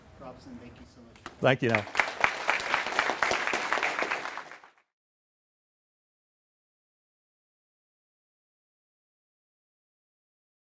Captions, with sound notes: >> PROPS, AND THANK YOU SO MUCH. >> THANK YOU. [ APPLAUSE ]